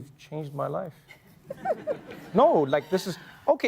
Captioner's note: laughter